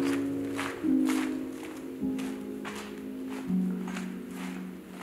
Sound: footsteps echoing

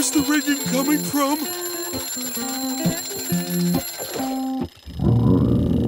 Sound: ringing; grumbling

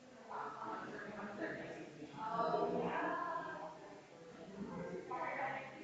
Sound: people chattering distantly continues

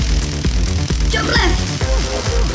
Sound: crackling electricity

